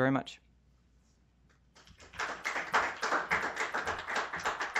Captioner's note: applause